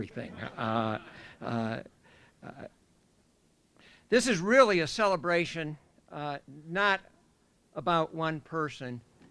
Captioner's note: laughter